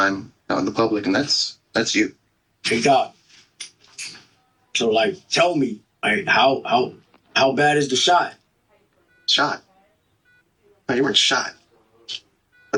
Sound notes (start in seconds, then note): 3.4 chair squeaking; 8.9 heart monitor